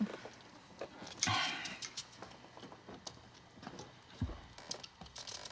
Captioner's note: Mama exhales